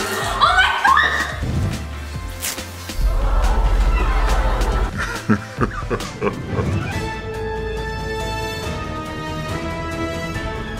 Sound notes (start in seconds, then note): 5.4 evil laughter; 7.5 playful music